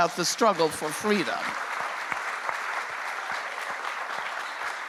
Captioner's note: applause continues